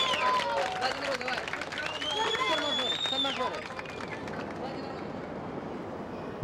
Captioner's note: children speaking in Russian